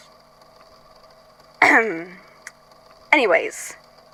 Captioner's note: clears throat